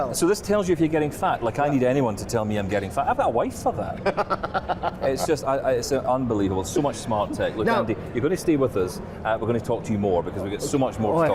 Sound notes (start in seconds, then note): 4.0 laughs